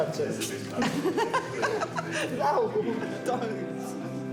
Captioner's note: laughs